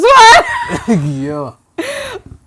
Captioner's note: laughs